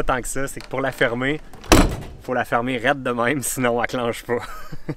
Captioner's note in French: Rire